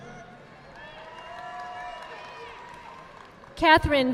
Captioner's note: audience applauding